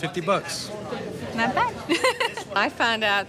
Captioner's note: chuckles